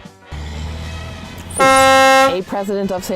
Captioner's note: buzzer